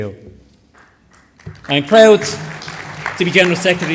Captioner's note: applause